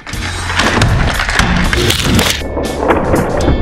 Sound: crash sounds

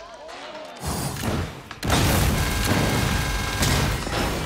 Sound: guns firing

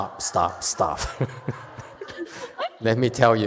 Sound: master laughs, speaker laughs, audience laughs

